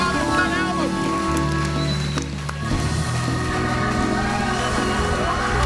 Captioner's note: audience cheering and applauding